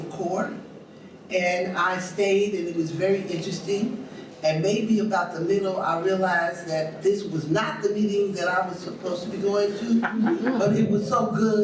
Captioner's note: audience laughs